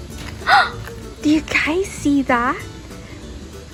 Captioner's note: gasps